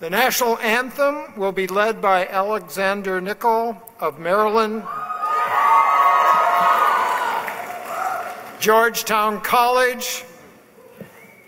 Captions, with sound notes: The national anthem will be led by Alexander Nicole of Merlyn. (cheering) Georgetown College